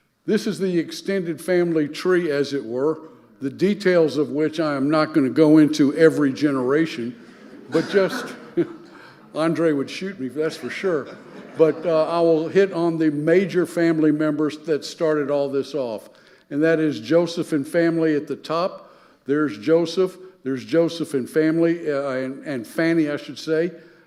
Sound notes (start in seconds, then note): 7.2 chuckles